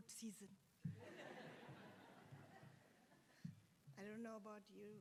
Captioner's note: attendees laughs